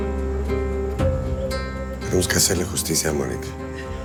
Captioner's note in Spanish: Sollozos